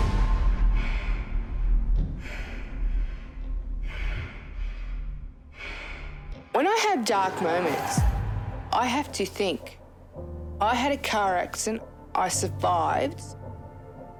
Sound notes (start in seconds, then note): 1.2 exhales sharply; 7.9 dramatic music